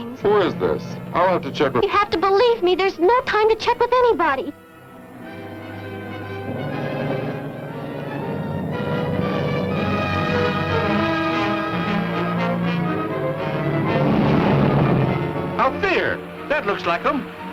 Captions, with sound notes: Who is this? I'll have to check-- You have to believe me, there's no time to check up anybody! [ DRAMATIC MUSIC ] [ CAR RUMBLING ] Out there! That looks like them.